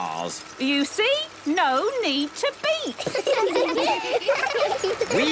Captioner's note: laughter